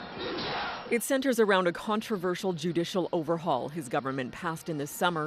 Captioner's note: speaking alternate language